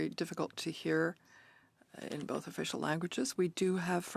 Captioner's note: speaking French